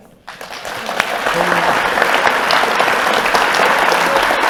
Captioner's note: audience applauding